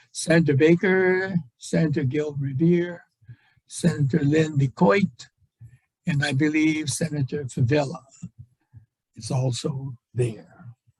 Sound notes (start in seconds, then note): none